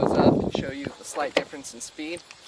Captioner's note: wind